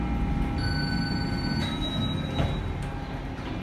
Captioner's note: elevator Chimes